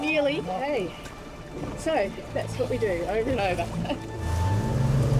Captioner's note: chuckles